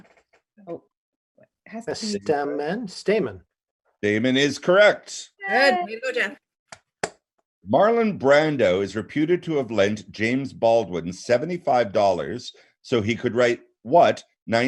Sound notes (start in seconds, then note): 7.4 speaking in French